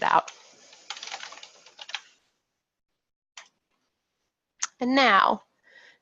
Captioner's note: keyboard keys clacking